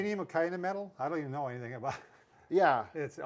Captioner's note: laughs